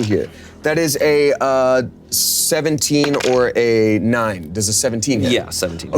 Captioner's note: dice rolling